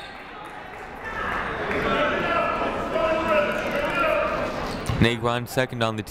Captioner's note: people shouting in the crowd